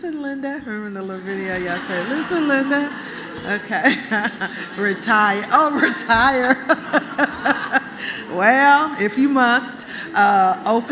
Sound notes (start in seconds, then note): 5.9 laughter